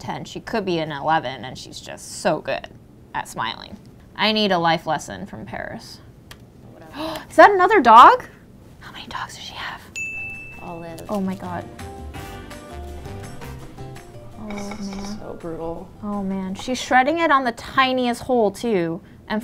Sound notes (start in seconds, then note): 7.2 gasps; 9.9 bell dings; 10.5 sultry funk music